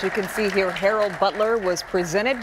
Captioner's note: applause